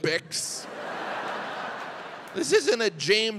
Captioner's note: audience laughs